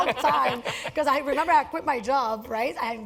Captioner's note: laugh